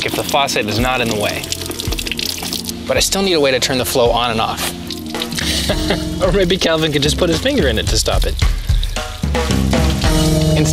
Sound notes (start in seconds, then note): 5.4 laughs